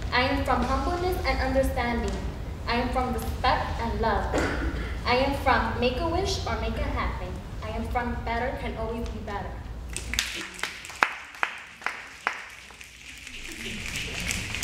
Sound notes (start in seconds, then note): 10.1 snapping